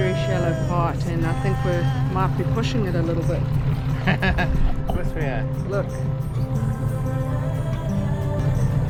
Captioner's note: laughs